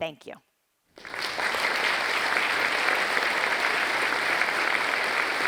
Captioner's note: audience applauding